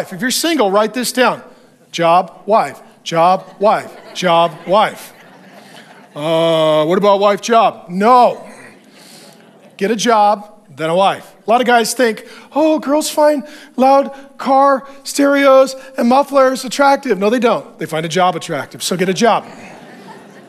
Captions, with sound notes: If you're single, write this down. Job, wife, job, wife, job, wife. (congregation laughs) What about wife, job? No, get a job then a wife. A lot of guys think, oh, girls find loud car stereos and muffles attractive. No, they don't, they find a job attractive. So get a job.